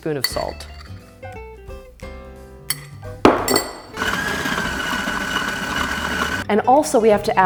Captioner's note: mixer whirring